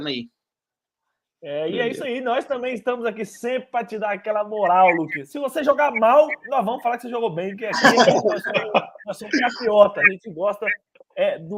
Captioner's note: laughs